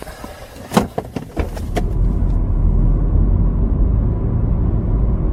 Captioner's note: car door clicks